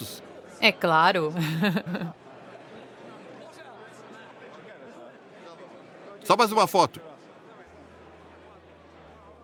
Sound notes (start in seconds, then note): 1.2 crowd chatter